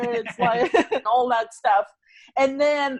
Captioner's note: laughs